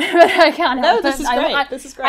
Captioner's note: laughs